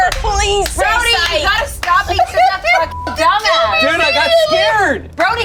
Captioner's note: beep